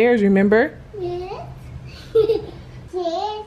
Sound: laughs

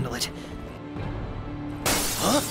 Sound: glass shatters

